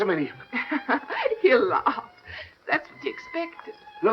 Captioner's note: laughing